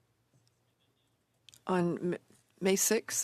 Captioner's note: speaking French